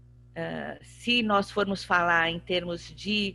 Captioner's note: speaking portuguese